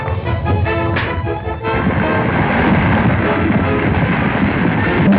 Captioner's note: tower rumbling; punch thuds